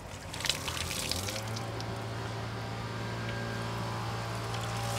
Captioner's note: power saw rattling